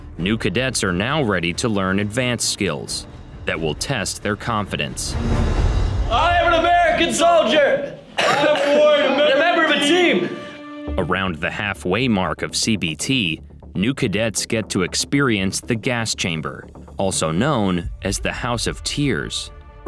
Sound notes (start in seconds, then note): 7.8 coughing